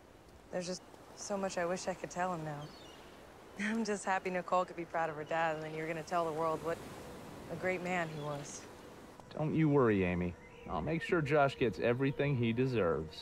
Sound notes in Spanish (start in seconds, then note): none